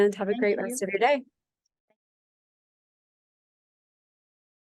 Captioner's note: silence